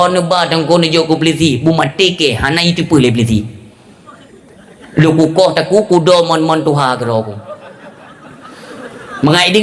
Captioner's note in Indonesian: tertawa